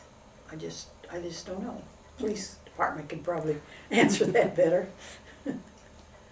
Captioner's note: laughs